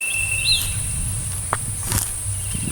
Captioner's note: footsteps